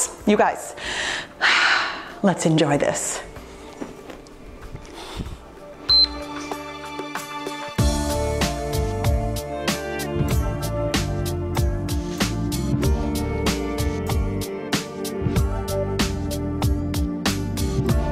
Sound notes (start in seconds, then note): 5.9 timer beeps; 8.0 cheerful music